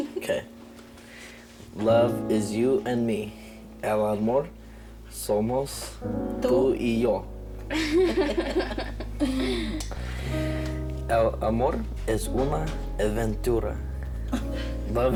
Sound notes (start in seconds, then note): 4.0 speaks in foreign language; 7.7 all giggling; 11.2 speaks in foreign language